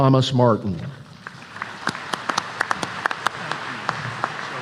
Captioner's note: applause